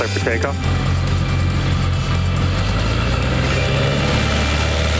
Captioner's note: engine roars